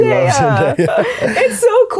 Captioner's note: laughing